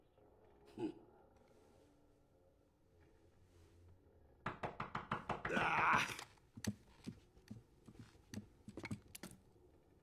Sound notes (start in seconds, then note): 4.4 knocking on door; 5.4 exclaims in frustration